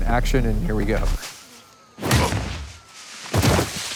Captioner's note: rustling